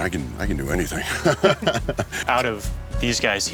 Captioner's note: laughs